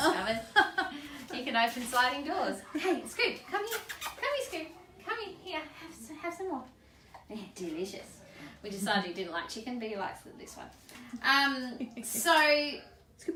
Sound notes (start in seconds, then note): 0.0 laughs; 3.6 kisses